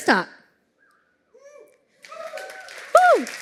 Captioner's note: applause